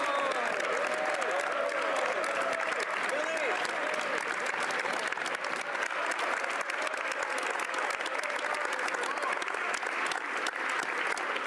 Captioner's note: applause